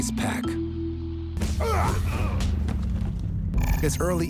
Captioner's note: fighting grunts